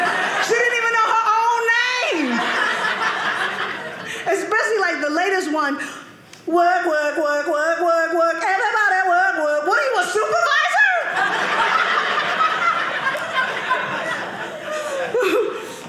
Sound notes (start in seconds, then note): 2.2 audience laughing; 11.0 audience laughing